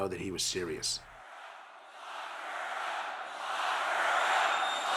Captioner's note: crowd cheering